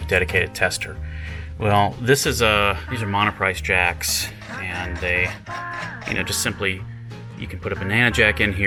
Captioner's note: mumbles, unscrews jack